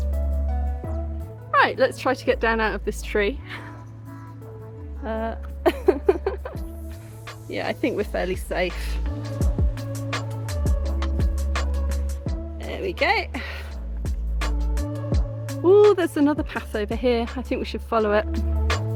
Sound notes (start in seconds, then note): 5.4 laughing